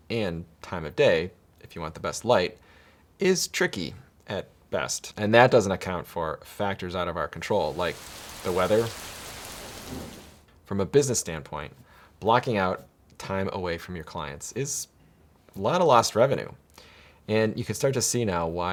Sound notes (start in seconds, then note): 7.5 rain pattering